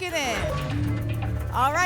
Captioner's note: lock sound